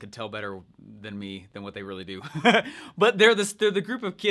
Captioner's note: laughs